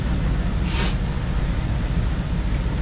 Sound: snif

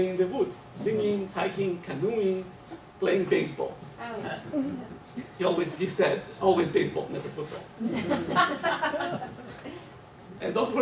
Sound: laugher

